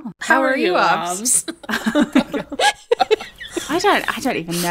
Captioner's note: laughing